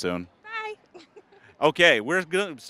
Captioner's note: giggling